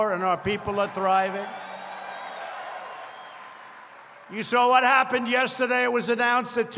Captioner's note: applause